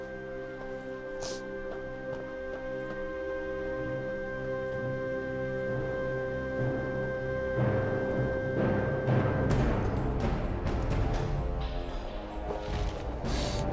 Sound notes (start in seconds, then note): 1.2 Jess sniffling; 9.4 suspenseful music